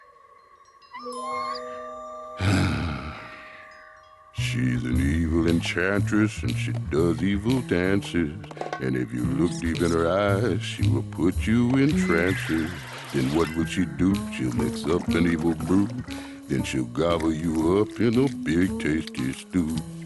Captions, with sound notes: [ Whimpers ] [ Sighs ] * she's an evil enchantress * * and she does evil dances * * and if you look deep in her eyes * * she will put you in trances * * then what will she do? * * she'll mix up an evil brew * * then she'll gobble you up * * in a big, tasty stew *